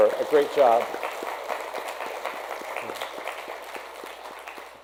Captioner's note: audience clapping